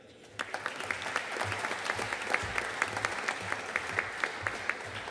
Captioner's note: audience applauding